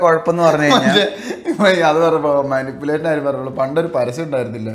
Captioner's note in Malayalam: പൊട്ടിച്ചിരി